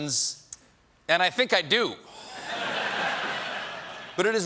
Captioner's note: laughter